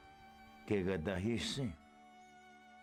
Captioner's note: Spoken Cherokee